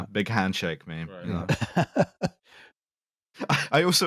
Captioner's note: laughs